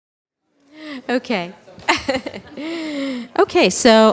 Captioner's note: laughter